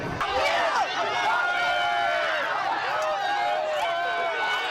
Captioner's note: crowd shouting